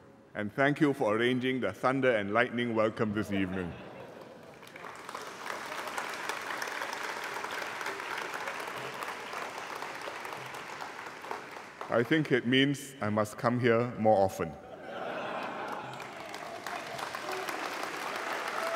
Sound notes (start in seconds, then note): 3.5 laughter and applause; 14.7 laughter and applause